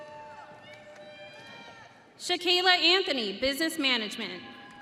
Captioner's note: audience cheering